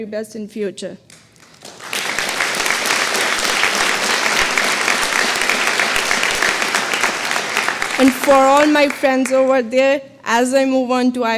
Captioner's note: applause